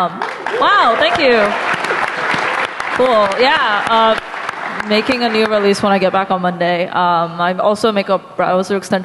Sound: applause

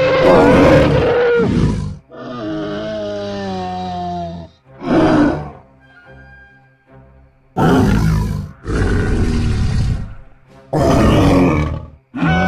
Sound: triceratops Sounds

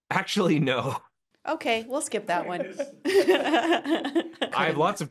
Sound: chuckles

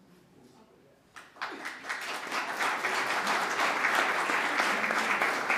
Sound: audience clapping

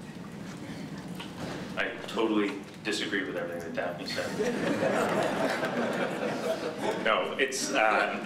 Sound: laughter

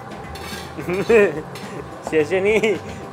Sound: speaks in Chinese; laughing; speaks in Chinese

